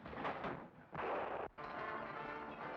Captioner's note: gunshot banging; dramatic music